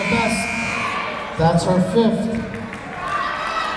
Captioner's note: buzzer blaring